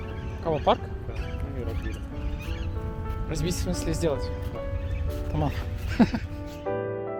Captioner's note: giggle